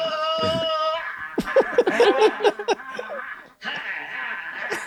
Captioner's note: laughter